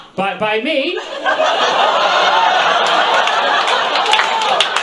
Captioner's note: audience laughs